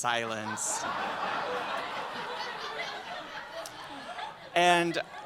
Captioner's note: laughter